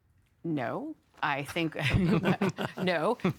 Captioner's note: panellists chuckling